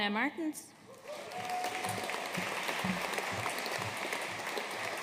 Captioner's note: audience applauding